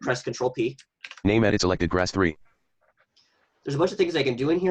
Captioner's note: computer Voice